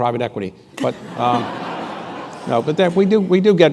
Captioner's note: laughter